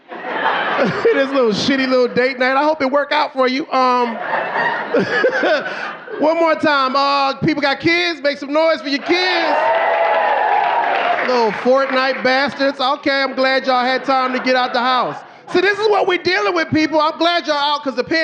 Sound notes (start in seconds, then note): 0.0 audience laughing; 3.9 laughs; 6.1 laughing; 8.7 audience cheering